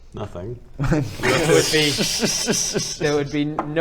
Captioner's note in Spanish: risas